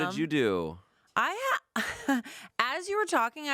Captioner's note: laughs